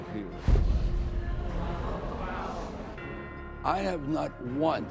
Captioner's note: audience murmuring